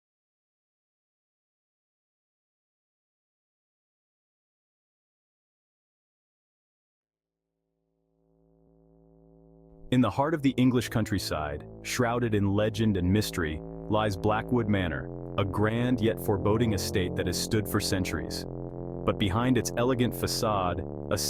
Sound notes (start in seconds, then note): 8.9 voice-over